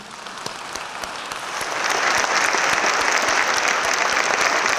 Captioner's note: audience applauds